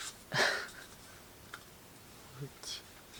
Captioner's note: laughs